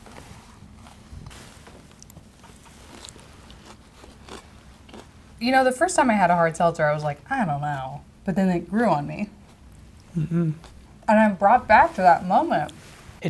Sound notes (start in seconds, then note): 1.2 crunching